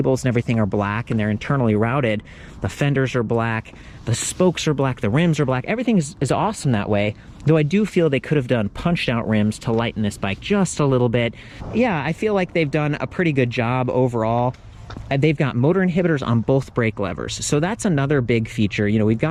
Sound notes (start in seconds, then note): none